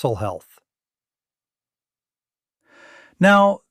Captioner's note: pause